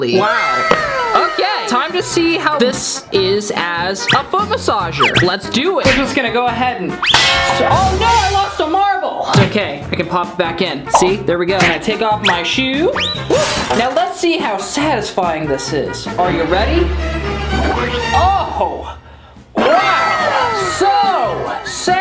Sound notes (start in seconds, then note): 7.0 hitting sound effect; 13.0 crashing sound effect; 15.4 suspense sound effect; 19.1 wow sound effect